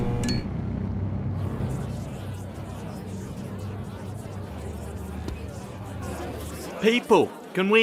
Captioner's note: everyone bantering